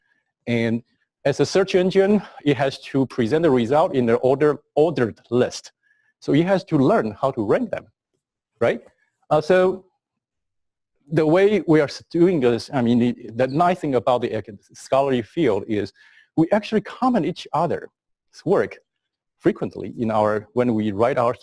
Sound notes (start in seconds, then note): 8.1 pause